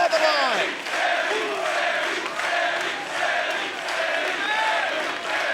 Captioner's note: crowd chants "Sami"